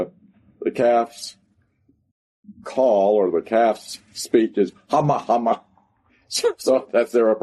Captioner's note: laughs